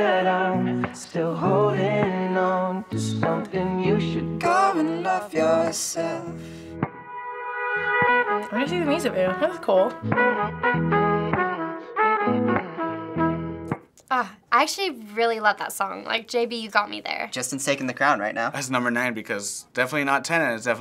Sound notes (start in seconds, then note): 4.5 singing along; 10.0 humming